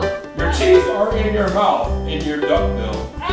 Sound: voiceover

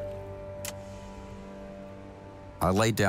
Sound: switch clicks

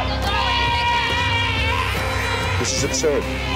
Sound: yelling

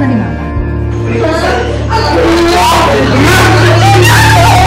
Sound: Emman wailing

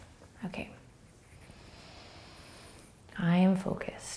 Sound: breathing

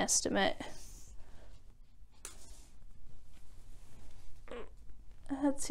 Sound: sound of sliding measuring tape

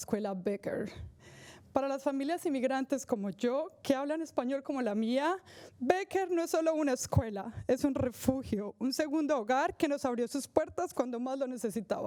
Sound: speaking spanish

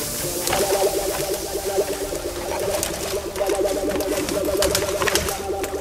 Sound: breaking of sticks

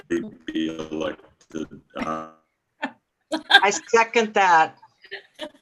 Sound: laughing

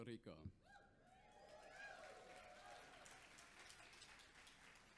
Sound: audience cheers

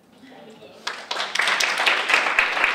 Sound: audience clapping

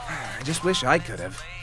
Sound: sigh

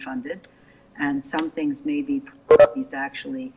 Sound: beep

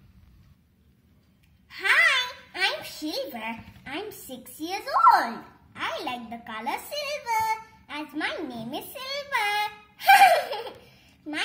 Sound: giggles

